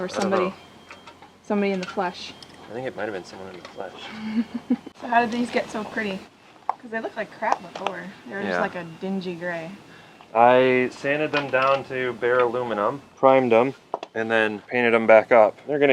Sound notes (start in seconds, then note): 4.0 chuckles